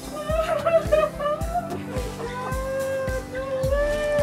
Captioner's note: laughter